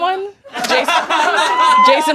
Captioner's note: audience laughing